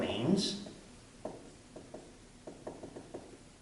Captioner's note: knocking